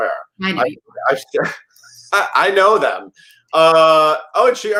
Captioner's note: laughs